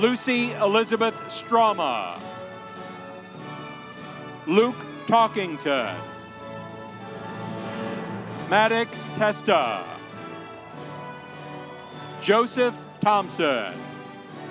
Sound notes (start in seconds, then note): 10.8 audience applauding; 14.3 audience applauding